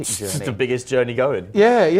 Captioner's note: laughs